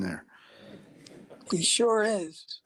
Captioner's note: attendees laughing